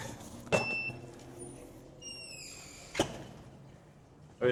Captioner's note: door sound